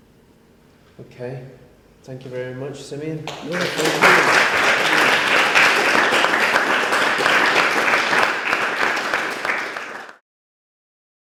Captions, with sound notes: OK. Thank you very much, Simeon. [applause] Thank you, thank you.